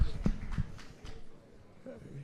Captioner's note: applause